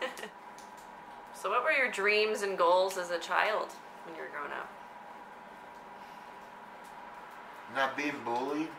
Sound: laughs

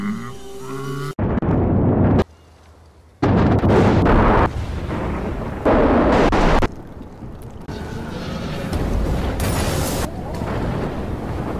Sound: various Distorted Sounds

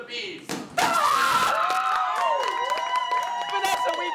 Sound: cheering

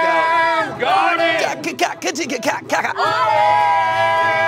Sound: beatboxing

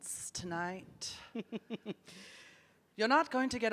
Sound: giggles

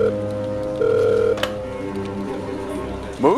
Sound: phone ringing; phone picked up

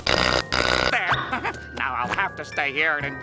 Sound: chuckles

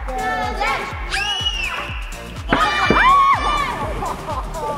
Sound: all shouting

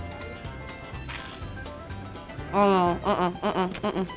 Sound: bread crunching loudly

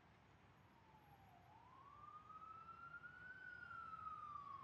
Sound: distant police siren

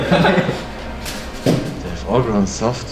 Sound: laughs

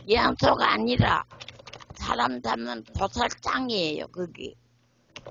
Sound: speaks in foreign language

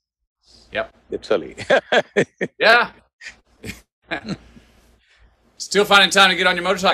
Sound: laughs

